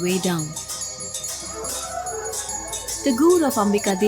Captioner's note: bells jingling; dramatic music